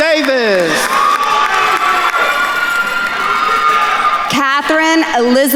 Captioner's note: attendees cheering and applauding